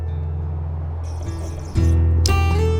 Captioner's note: slurps